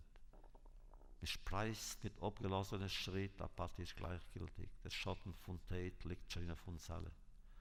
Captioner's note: Yiddish